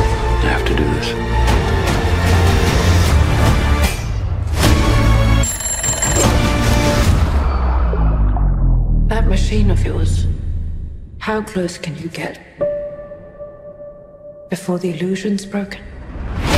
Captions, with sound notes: I have to do this. [alarm clock rings] That machine of yours, how close can you get, before the illusion's broken?